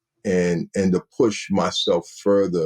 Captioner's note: none